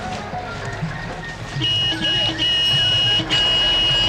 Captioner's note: car horn honks